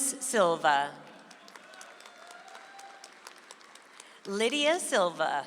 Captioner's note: audience applauds